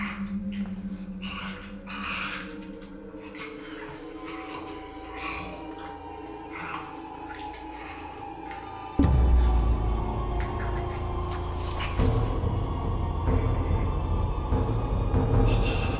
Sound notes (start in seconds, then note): 0.1 snarling and grunting; 6.5 gnawing and slurping